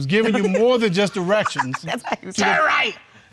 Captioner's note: deep voice; laughing; laughs; deep voice